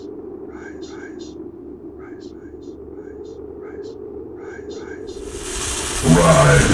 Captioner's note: in echoed whispers